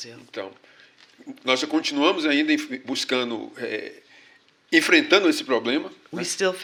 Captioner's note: speaking portuguese